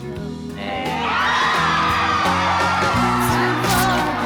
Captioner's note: exuberant cheering